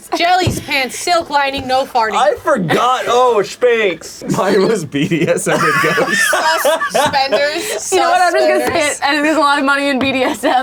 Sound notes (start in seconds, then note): 5.0 laughing